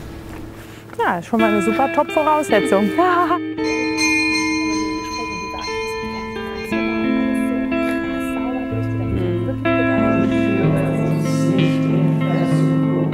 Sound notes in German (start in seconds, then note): 3.9 Gebetsglocke läutet